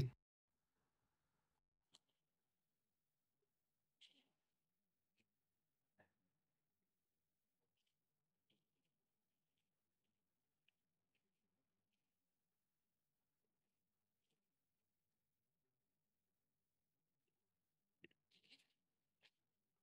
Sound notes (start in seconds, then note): 5.4 silence